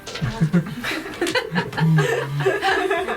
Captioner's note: laughter